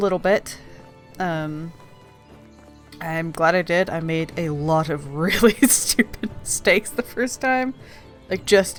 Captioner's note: laughing